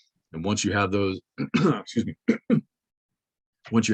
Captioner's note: clears throat